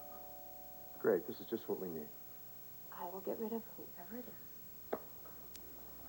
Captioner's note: doorbell rings